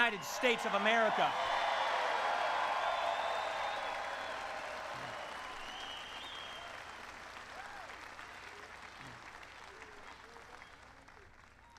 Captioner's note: applause